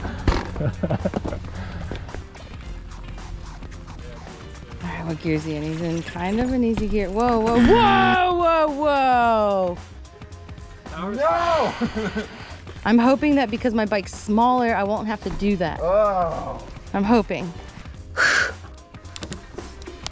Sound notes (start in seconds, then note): 0.0 laughs; 0.0 wheels thudding; 3.4 gentle music; 11.4 laughs; 15.7 moaning; 17.6 exhales